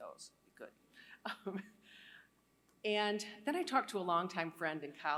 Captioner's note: laughter